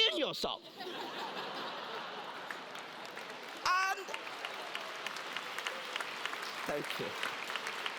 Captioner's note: laugh; applause